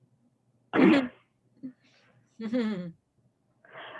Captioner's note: laughs